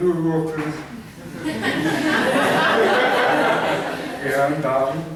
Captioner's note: laughter